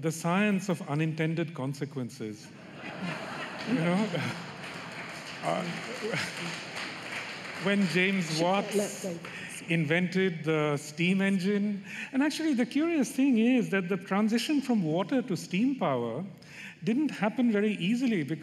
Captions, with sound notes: BE RENAMED, YOU KNOW, THE SCIENCE OF UNINTENDED CONSEQUENCES. [ LAUGHTER ] YOU KNOW? [ APPLAUSE ] WHEN JAMES WATTS INVENTED THE STEAM ENGINE, AND ACTUALLY, THE CURIOUS THING IS THAT THE TRANSITION FROM WATER TO STEAM